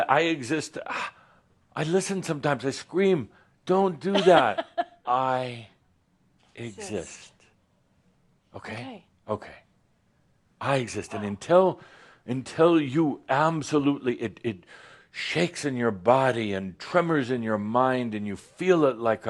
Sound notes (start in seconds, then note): 4.1 she chuckles